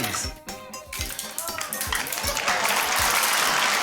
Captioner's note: beans splat; cheering, applause